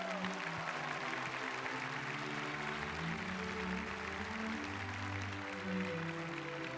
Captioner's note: applause